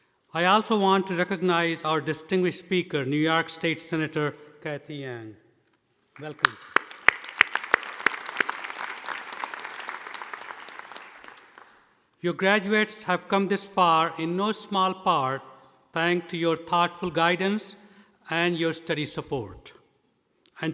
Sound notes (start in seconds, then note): 6.2 audience applauding